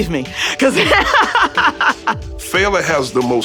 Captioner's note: laughter